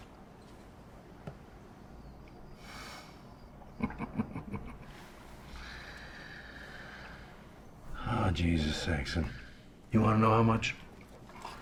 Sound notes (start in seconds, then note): 3.6 chuckles